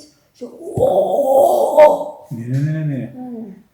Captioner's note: good effort of screaming